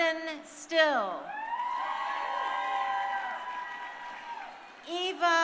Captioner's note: crowd cheering